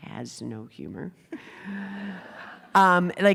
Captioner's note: laughter